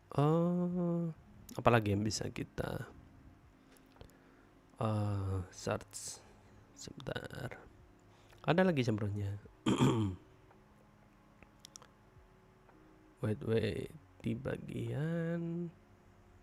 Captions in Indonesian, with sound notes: Ee apalagi yang bisa kita ee search sebentar ada lagi [batuk] waitah